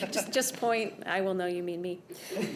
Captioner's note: laughter